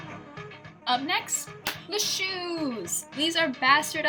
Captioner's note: clap